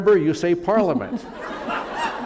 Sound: laughter

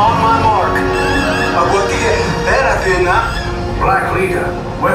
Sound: Nien Nunb in native language; alarm

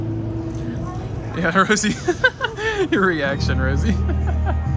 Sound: laughs

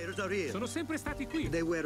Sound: talking in foreign language

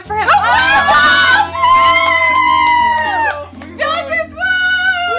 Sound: family cheers; squeals

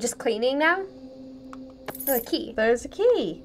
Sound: keys jingling

